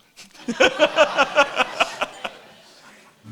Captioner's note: laughing